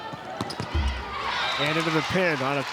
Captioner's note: ball thumping